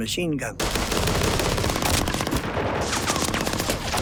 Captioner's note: gunfire